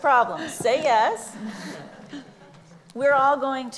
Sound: laughs

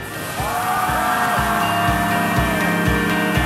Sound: cheering; hopeful music

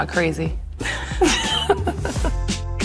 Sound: both laugh

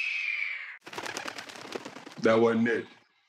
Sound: bird squawking; wings flapping

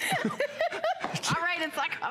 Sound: laughter

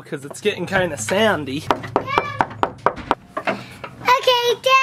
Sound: knocking

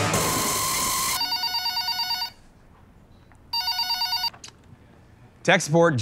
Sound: phone rings

